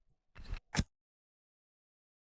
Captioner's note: screwdriver sound